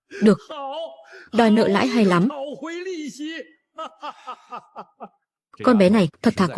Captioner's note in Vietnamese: tiếng cười